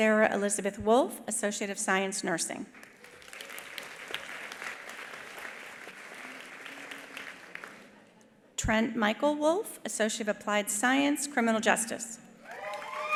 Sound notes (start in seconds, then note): 2.8 attendees applauding; 12.4 attendees applauding; 12.4 attendees cheering